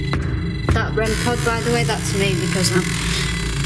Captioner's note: REM pod beeping